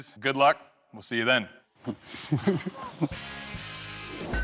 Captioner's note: chuckling